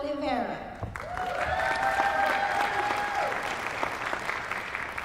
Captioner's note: applause